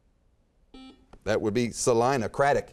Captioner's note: beeping